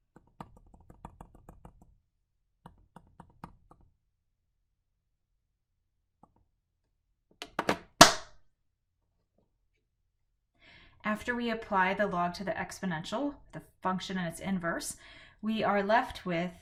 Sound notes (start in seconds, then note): 5.4 clap to indicate cut